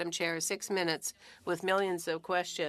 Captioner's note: speaking French